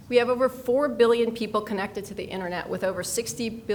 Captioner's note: none